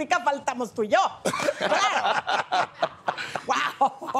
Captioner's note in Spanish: Risas